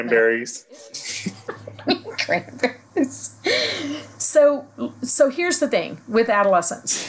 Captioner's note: laughing